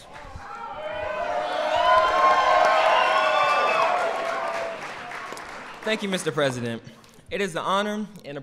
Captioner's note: applause